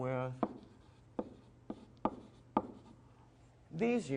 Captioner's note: sound of writing on board